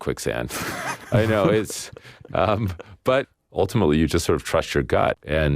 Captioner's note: laughs